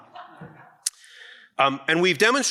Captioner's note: audience laughs